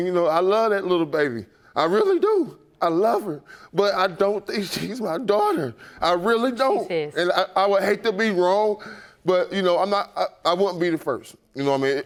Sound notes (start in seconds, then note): none